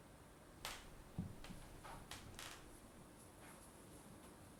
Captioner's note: footsteps shuffle